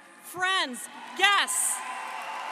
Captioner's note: applause